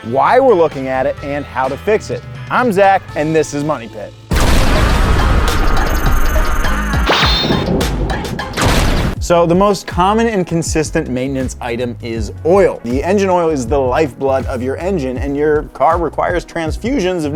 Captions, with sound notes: why we're looking at it and how to fix it. I'm Zach and this is Money Pit. (lightning blasting) (bouncy upbeat music) So the most common and consistent maintenance item is oil. The engine oil is the lifeblood of your engine and your car requires transfusions